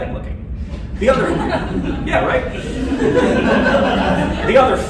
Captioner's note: laughter